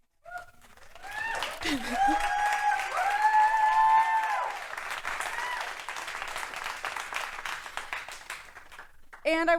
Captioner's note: wooing and applause